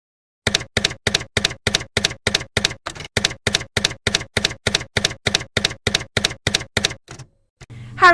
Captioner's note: typewriter keys clacking